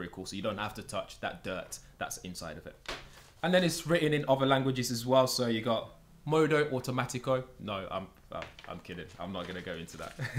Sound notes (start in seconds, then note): 5.6 speaking in a foreign language